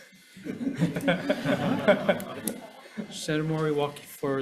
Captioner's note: panel laugh